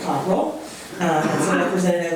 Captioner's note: coughing drowns out speaking